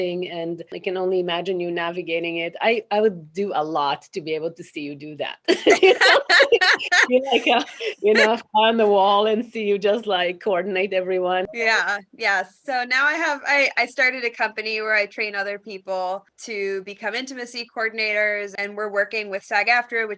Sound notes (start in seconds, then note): 5.5 laughs cheerfully